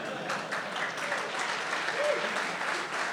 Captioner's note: applause